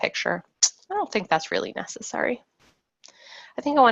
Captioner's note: sucks cheek